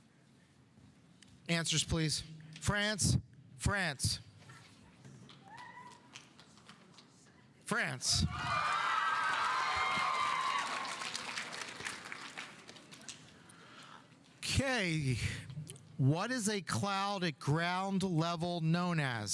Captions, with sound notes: Answers, please. France, France. France. (audience applauding) (audience cheering) Okay, what is a cloud at ground level known as?